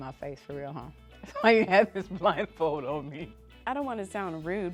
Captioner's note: laughs